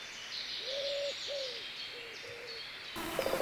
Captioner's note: insects chirruping, birds singing; distant animal calls